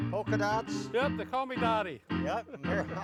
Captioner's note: laughs